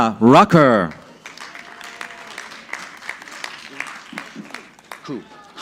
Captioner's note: audience clapping